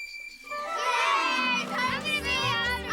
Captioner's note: all cheering and shouting